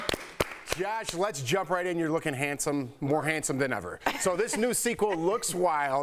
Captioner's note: applause